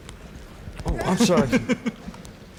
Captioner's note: laughs